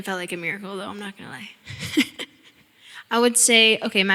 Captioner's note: chuckling